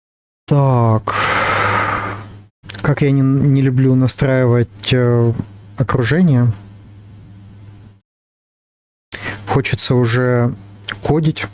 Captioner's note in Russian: вздыхает